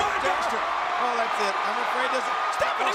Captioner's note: crowd cheers